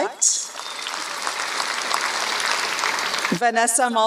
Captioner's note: applause